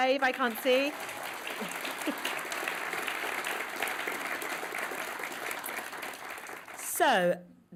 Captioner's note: applause